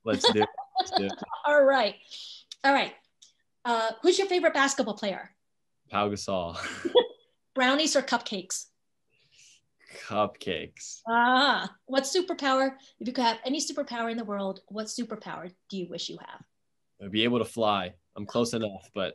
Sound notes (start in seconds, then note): 0.1 laughs; 6.8 laughs